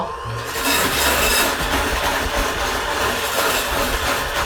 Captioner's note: power hand whirring